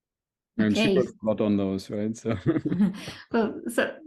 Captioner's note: chuckles